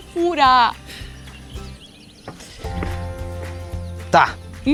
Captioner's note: birds